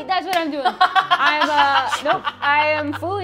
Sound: laughs

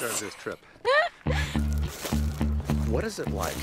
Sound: Kristen laughs

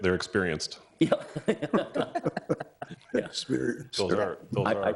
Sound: all laughing

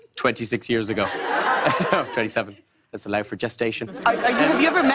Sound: laughter

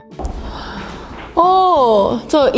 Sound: hmmmm

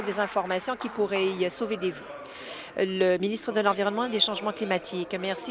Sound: applause

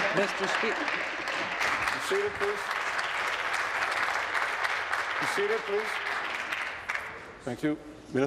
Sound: applause

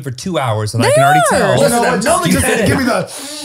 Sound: sniffs; laughing

